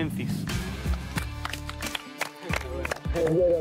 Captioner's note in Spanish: aplauden